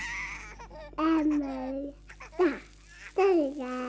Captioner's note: toddler babbling